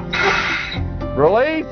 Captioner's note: brake noise